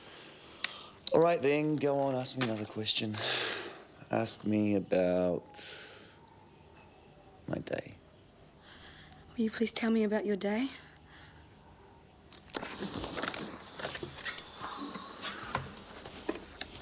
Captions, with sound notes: All right then, go on, ask me another question. (sighs) Ask me about my day. - Will you please tell me about your day?